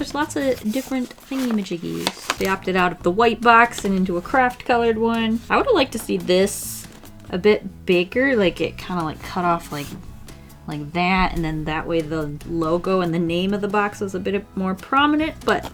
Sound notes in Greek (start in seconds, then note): none